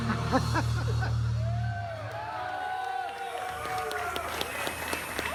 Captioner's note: crowd cheering